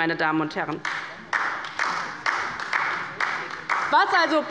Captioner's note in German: Beifall bei der LINKEN